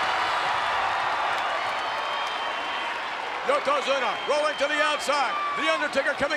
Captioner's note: applause